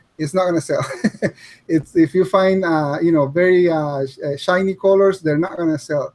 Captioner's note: chuckles